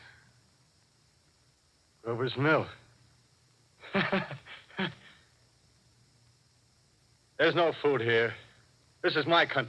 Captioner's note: laughs as at a great joke